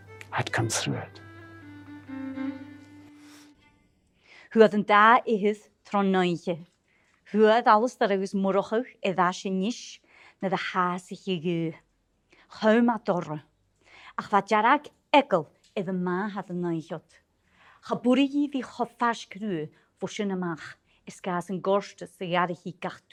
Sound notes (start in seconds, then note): 7.1 storytelling in Gaelic